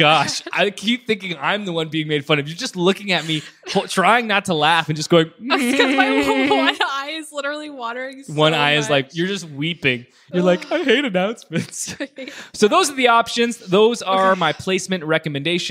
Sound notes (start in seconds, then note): 5.7 giggles